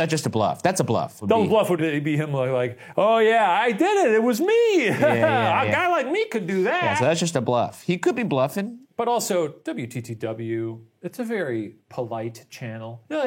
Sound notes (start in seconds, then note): 4.8 laughs